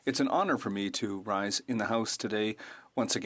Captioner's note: speaking French